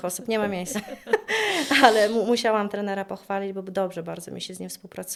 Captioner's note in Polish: śmiech